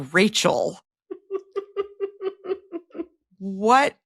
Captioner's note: giggling